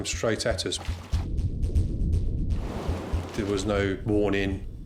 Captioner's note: wind roars